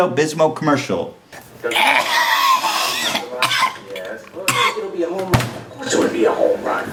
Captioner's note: Ethan Klein cough/hack